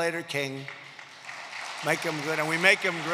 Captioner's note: applause